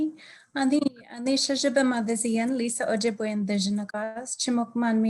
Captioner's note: speaking in native language